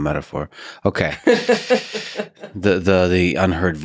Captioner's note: Lisa laughs